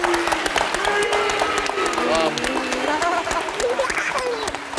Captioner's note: crowd applauding